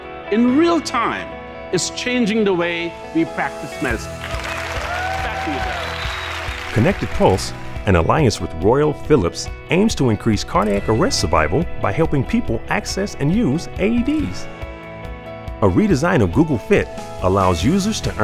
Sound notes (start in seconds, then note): 4.2 audience applauding